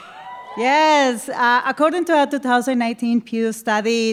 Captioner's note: cheering